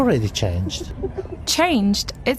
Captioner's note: laughs